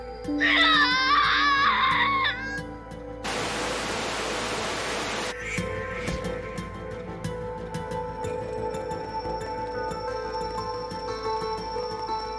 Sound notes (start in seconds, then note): 3.2 static noise